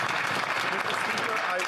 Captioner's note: applause